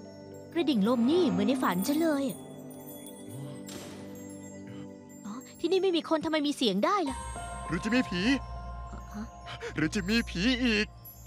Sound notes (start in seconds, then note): 3.6 door closing